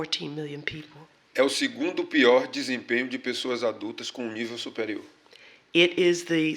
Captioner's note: speaking portuguese